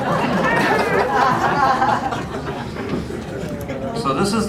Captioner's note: laughter